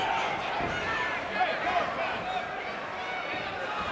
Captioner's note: fans chattering